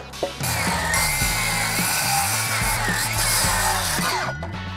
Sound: grinder grinding

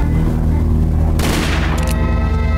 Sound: music and nat sound up full; gunshots sound effect; music and nat sound up full

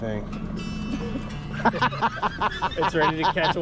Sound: upbeat music; laughing

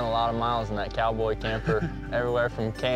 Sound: laughter

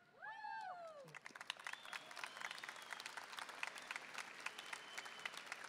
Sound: audience applauding

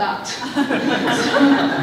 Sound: laughter

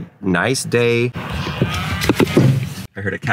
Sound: cow mooing

